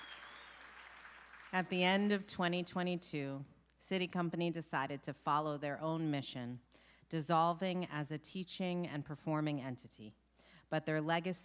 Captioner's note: applause